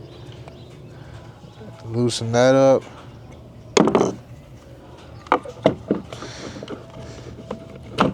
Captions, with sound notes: loosen that up. (wood clunking)